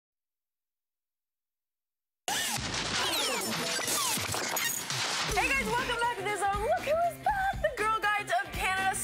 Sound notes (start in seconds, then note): 2.3 crashing Sound